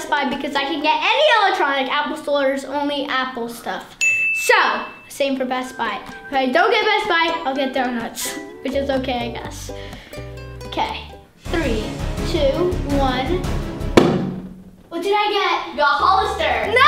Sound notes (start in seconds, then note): 4.0 dinging; 11.4 dramatic music